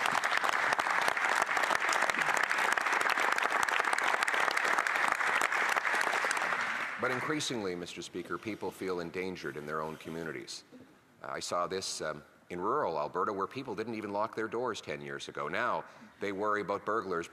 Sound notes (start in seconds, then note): 2.7 some Applause